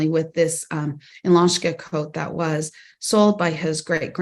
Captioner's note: non-english